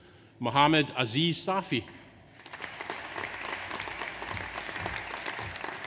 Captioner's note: audience applauds